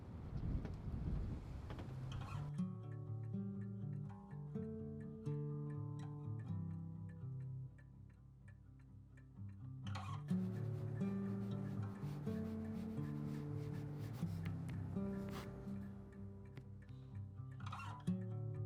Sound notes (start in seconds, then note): 10.3 A pen scratches softly on paper